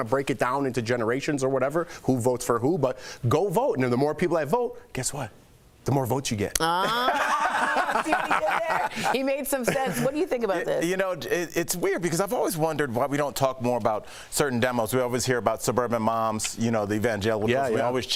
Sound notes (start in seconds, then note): 10.7 laughter